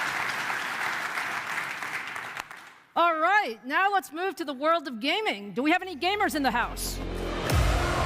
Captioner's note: applause